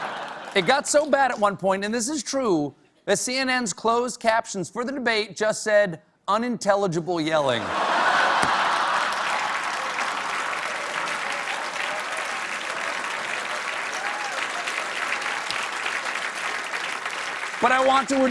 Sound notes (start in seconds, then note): 7.7 cheers and applause